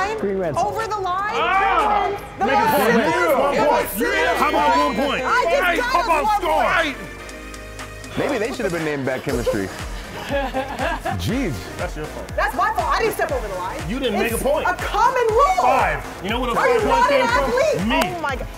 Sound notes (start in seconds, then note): 10.0 laugh